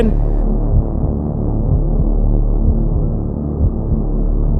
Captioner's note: heart beating